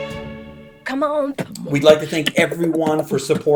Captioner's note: beatboxing